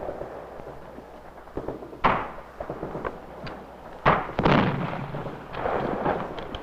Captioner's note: explosions booming; missiles whistling